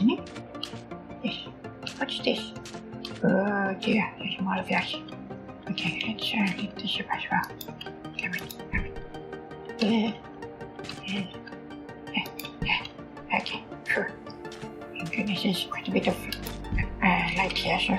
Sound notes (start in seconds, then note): 9.4 scaredy noises